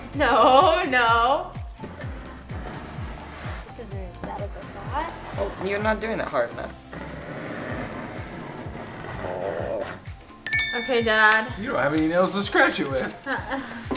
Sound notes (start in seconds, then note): 1.5 scraping; 6.8 low scraping